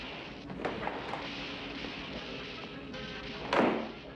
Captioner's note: cartoon clatter